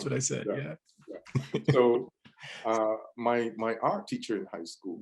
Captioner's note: laughs